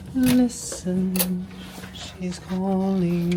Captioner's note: door clicking